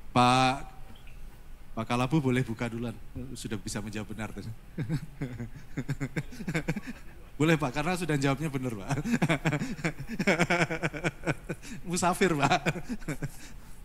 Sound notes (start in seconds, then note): 4.8 laughs